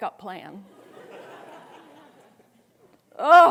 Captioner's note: students laughing